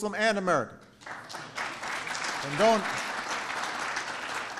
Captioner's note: applause